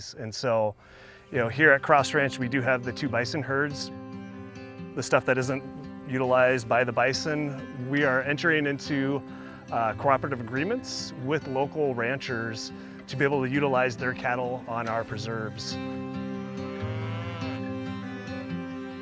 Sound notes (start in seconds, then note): 16.3 cattle mooing